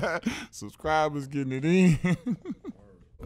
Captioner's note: laughs; laughs